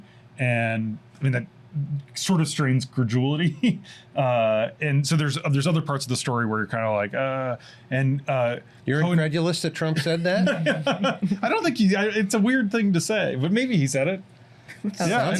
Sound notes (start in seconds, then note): 9.9 laughs